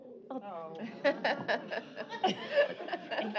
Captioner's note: groans, laughter